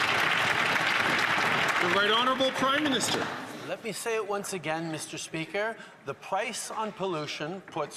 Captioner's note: some Applause